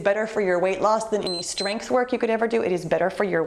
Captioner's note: timer beeps